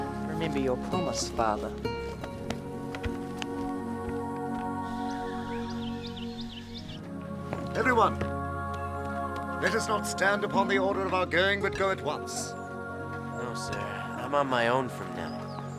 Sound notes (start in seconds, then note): 0.0 dramatic music; 2.8 dramatic music; 5.2 birds chirping